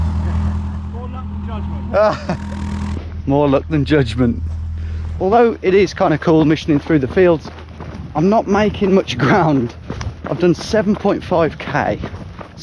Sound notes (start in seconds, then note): 1.5 laughs